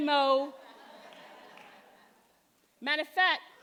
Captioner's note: audience laughing